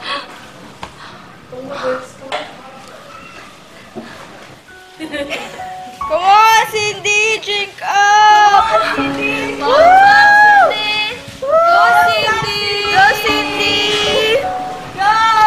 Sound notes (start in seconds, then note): 5.0 laughing; 11.1 everyone's cheering Cindy